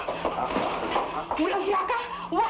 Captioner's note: woman speaking in Tagalog